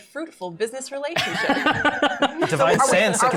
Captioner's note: laughter